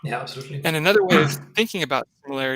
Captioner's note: clears throat